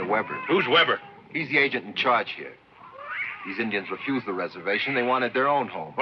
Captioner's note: none